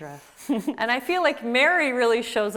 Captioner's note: laughs